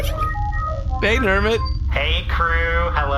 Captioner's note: call connects